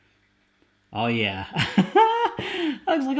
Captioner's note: laughs